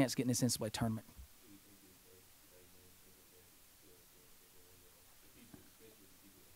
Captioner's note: man speaks off mic